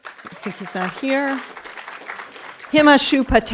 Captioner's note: audience applauding